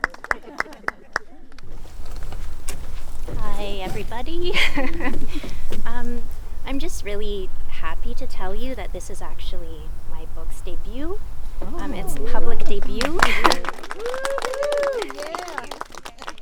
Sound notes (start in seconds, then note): 0.0 light group laughter; 4.2 chuckling; 9.4 group murmurs excitedly; 12.7 applause; 12.7 cheering